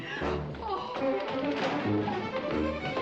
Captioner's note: exclaims